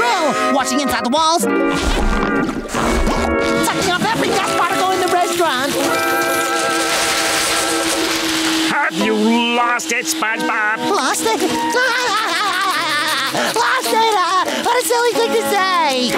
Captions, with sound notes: wash the inside the walls, suction up every dust particle in the restaurant! Oh you've lost it SpongeBob! Lost it? [nervous laughter] Lost it, what a silly thing to say!